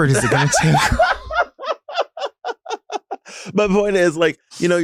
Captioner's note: Sapphira laughs